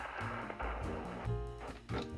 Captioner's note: record stops